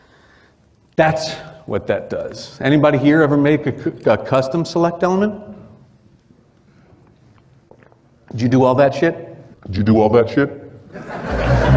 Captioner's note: chuckles